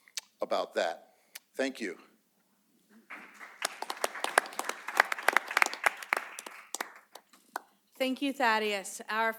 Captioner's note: applause